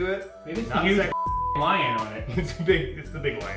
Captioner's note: beep